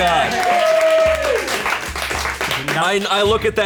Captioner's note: colleagues applauding